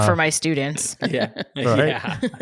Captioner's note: laughs